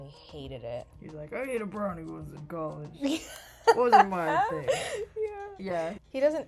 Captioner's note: laughs